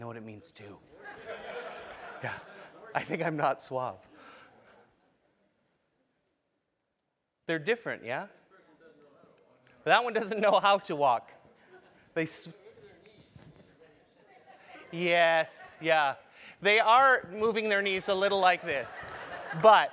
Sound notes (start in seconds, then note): 1.0 laugh; 11.2 laugh